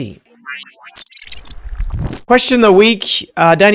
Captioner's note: electric whooshing